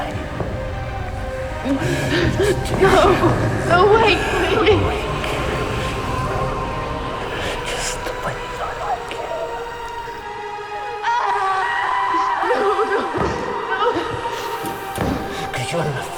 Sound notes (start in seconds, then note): 0.2 dramatic music; 10.2 dramatic music; 11.0 screaming